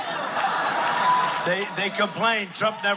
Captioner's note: laughing